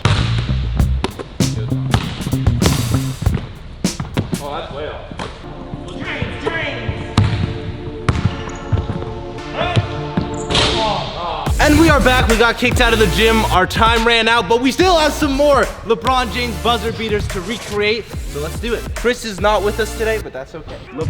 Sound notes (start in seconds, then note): 0.5 upbeat funk music; 7.4 ball bounces; 9.9 player screams; 9.9 players groan